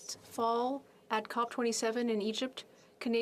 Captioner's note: speaking French